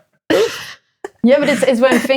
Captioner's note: laughing